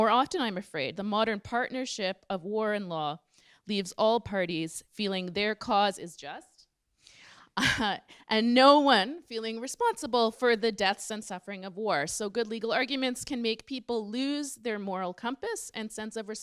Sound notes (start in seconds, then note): 7.6 laughs